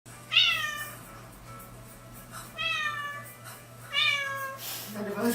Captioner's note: meow sounds